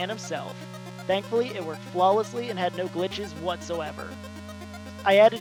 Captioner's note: sarcasm in voice